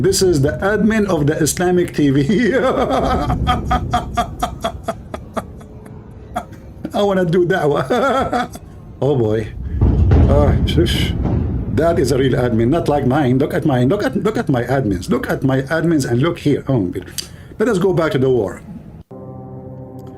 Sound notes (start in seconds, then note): 2.3 Ketawa